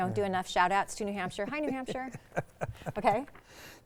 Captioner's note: laughing